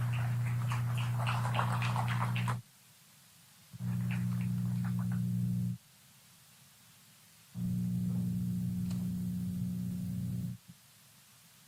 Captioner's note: applause